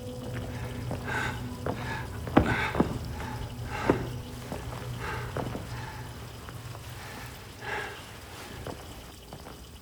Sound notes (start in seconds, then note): 0.1 water facet running; 2.4 gasping